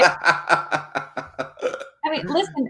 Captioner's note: laughs